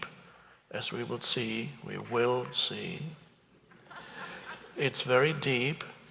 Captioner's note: audience chuckles